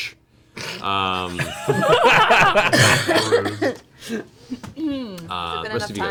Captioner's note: all laugh